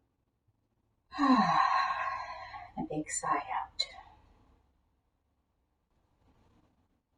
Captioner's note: audible sigh